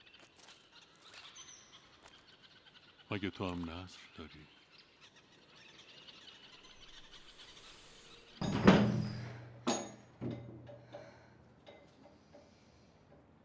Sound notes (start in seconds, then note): 8.4 door opening